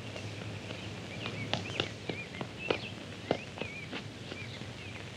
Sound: birds chirping

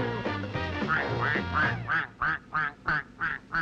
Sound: goose honking

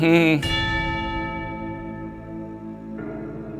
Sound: humming; adventurous music; the chime of the bell echoes; sombre music

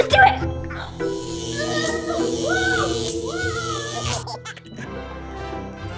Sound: lightning zapping; shouts; action music

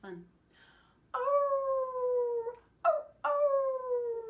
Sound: howling

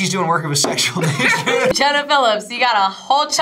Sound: both laugh

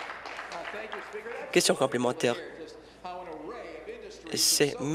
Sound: applause

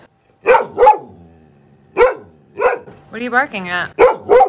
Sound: dog barking

